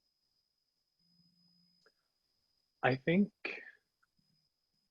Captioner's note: none